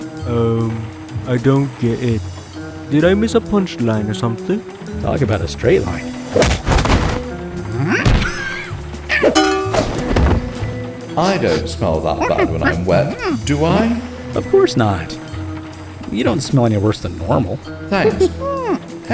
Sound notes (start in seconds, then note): 6.1 punch, gate guard grunts, thuds to ground; 8.0 Henry grunts, frying pan hit, thud; 12.2 ape noises